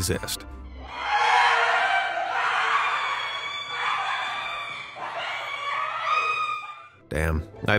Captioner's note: screams